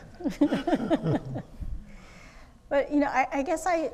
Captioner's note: laughing